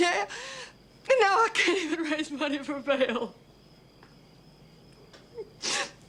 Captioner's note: sobbing